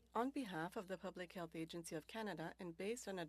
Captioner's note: speaking French